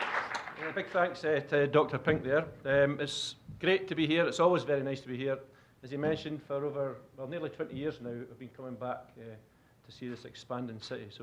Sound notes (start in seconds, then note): 0.0 applause; 0.9 with Scottish accent